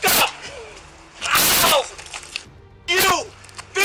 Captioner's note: screaming